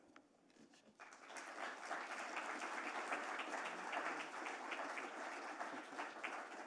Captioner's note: applause